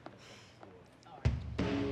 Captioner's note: sighs